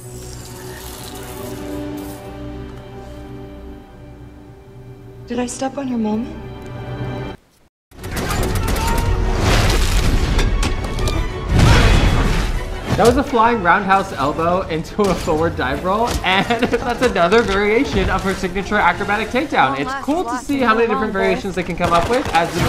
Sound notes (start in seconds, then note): 0.0 tense music; 8.0 dramatic music; 8.0 machine guns firing